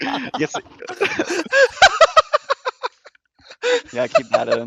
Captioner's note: laughs